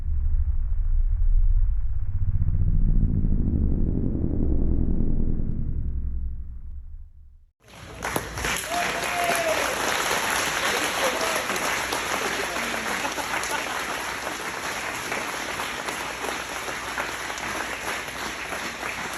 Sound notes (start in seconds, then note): 8.5 audience clapping